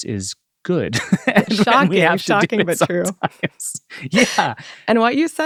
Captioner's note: man laughs